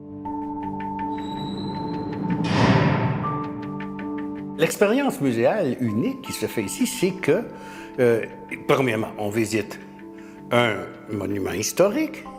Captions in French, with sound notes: [ Fermeture d'une porte métallique ] L'expérience muséale unique qui se fait ici c'est que, premièrement, on visite un monument historique,